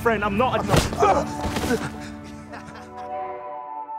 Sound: fist punch; laughing; gentle electronic music

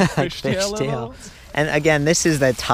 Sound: laughs

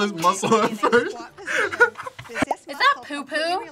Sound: both laugh

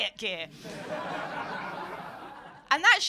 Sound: laughter

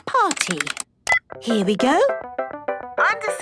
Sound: beep

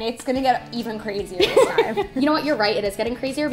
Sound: laughter

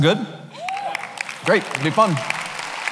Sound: cheering

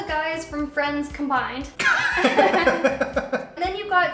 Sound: laughter

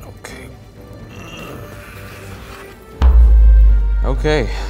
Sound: dramatic music; grunting

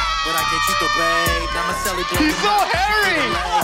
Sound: cheering

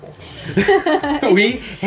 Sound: laughing

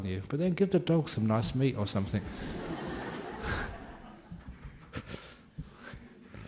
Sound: laughter

